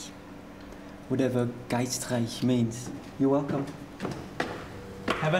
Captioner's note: mixes up English and German